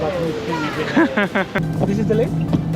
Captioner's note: chukcles